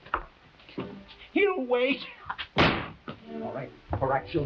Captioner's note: chuckling